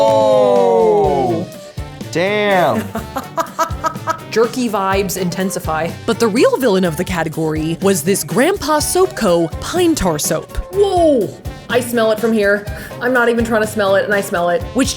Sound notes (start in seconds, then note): 2.8 laughing